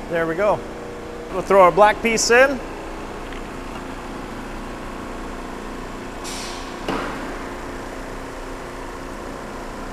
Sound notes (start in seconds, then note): 3.5 machine hovering